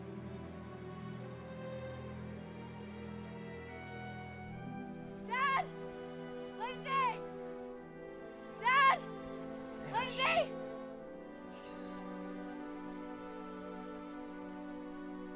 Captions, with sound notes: (YELLING) Dad? Lindsey? Dad? Lindsey? Ava, shhh.